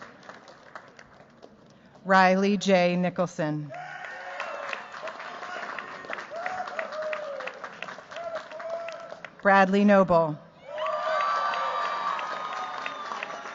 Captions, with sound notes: Riley J. Nicholson. [CHEERS, APPLAUSE] Bradley Noble. [CHEERS, APPLAUSE]